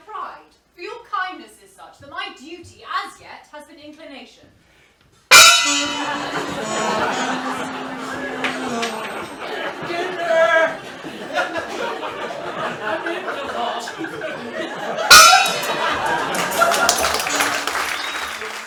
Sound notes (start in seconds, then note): 5.4 gong bangs; 16.3 applause